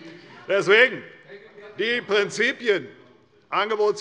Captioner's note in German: Zurufe von der SPD und der LINKEN